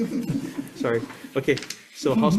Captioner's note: members laugh